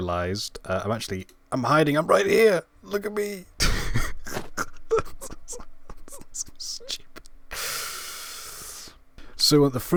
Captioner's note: laughing